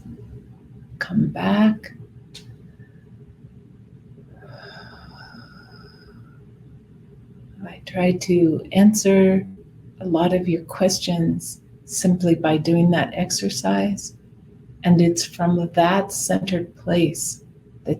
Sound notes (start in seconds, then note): 4.4 exhales